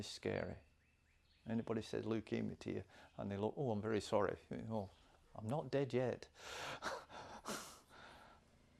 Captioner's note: laughs